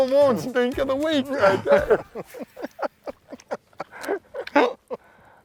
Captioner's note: laughter